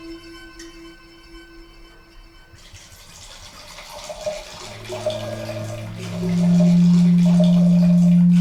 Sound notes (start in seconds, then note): 2.8 wine glugs